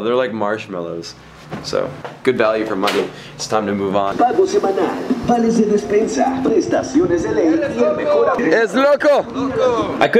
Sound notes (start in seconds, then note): 4.1 foreign music; 7.5 shouts in foreign language